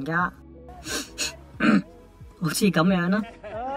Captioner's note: blows a snot